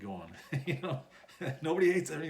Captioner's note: laughs